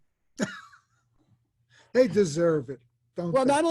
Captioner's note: laughs